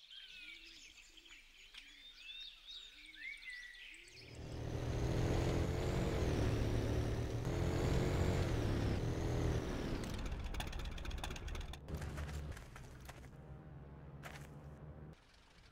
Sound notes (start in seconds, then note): 0.5 birds Continue Chirping; 4.3 motorbike Engine